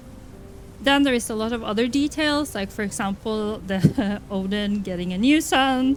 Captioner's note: laughs